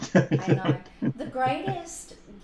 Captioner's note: laughter